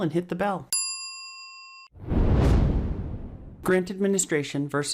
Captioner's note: bell rings